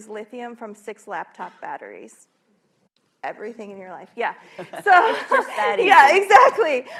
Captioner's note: laughter